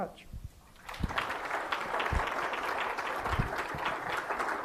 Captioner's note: applause